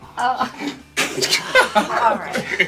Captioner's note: laughing